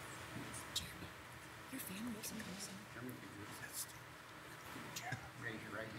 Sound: softly whispering

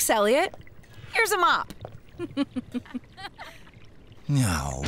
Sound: chuckling

